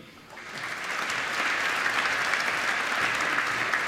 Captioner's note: applause